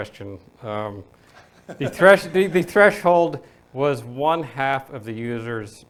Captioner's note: audience laughing